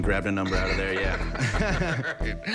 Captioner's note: laughter